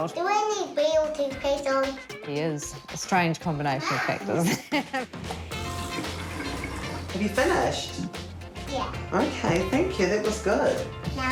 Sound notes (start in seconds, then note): 3.9 laughs